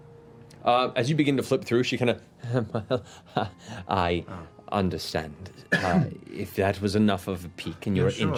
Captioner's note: chuckles